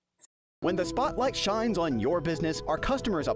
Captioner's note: voiceover